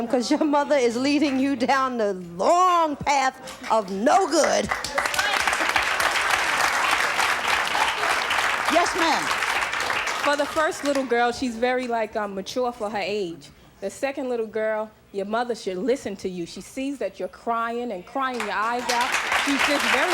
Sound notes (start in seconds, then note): 4.5 audience applauds